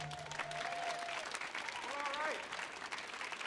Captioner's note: audience whoops and applauds